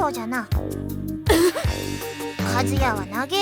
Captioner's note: gasp